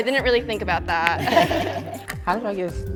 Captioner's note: laughs